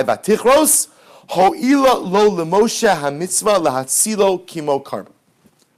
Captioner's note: Hebrew